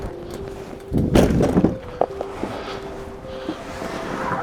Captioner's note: boat thudding